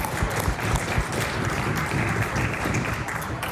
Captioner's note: audience Reacts